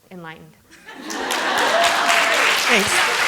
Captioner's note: applause